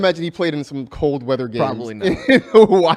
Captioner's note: laughs